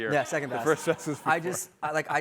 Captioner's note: laughter